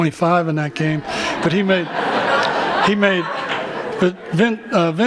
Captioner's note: laughter